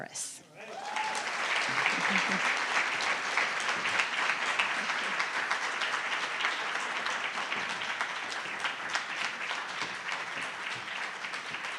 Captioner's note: applause